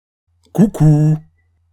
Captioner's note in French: voix pédophile